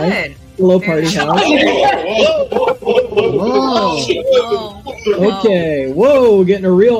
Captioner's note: all exclaiming